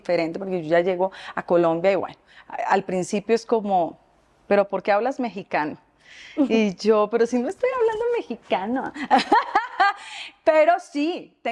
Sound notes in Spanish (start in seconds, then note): 7.9 Habla con dialecto mexicano; 8.9 Risas